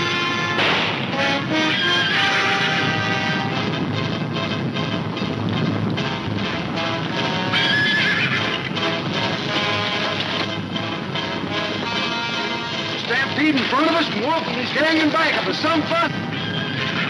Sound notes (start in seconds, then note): 7.4 horses neighing